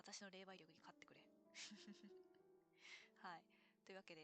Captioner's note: laughs